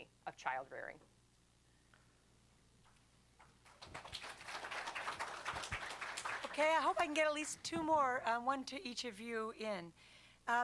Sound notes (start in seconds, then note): 3.6 applause